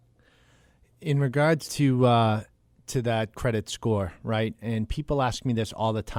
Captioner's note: voiceover